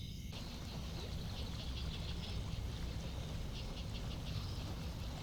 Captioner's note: water gurgles from the stream